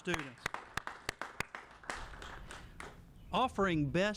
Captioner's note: applauding